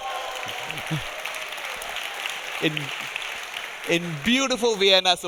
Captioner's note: audience applauding